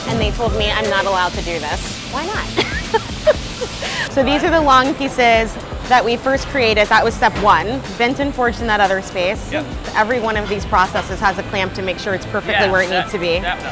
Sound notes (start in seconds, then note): 2.4 laughs